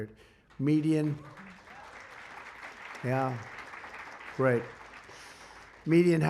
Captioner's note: applause